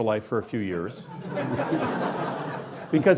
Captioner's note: laughing